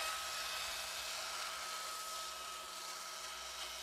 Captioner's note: the sounds of sawing become quieter